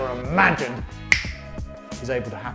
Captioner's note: fingers snap